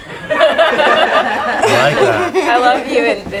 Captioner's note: group laughs